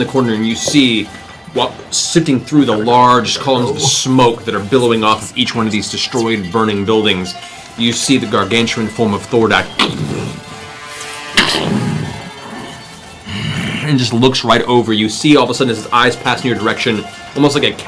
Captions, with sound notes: corner and you see sifting through the large columns of smoke that are billowing off each one of these destroyed, burning buildings, you see the gargantuan form of Thordak (heavy footsteps) and looks right over. You see all of a sudden as his eyes pass in your direction, almost like a cat